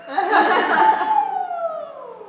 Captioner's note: laughter